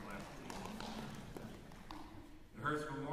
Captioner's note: applause